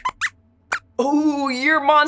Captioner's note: squeaks squeaks